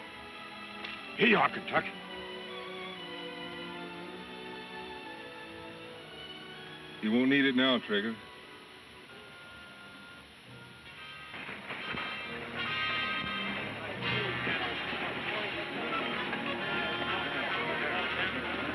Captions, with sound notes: - Here you are, Kentucky. - He won't need it now, Trigger. (dramatic music) (people chattering)